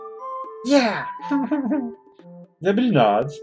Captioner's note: whimpers